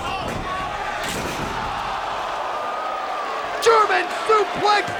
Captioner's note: table clunks